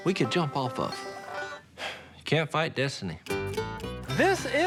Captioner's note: sighs